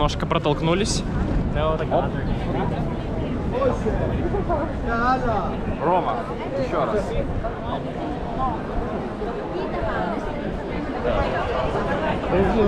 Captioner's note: crowd noise